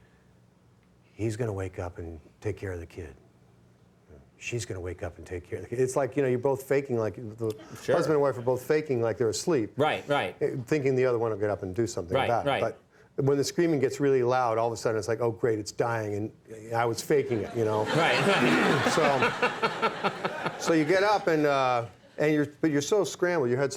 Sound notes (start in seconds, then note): 17.2 audience laughing; 17.3 Conan laughing